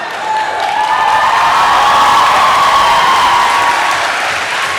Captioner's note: applause